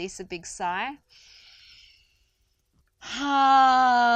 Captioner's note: inhales deeply